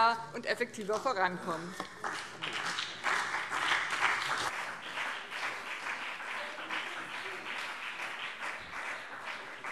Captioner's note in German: Beifall BÜNDNIS 90/DIE GRÜNEN und CDU